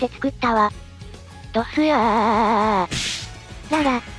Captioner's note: crashes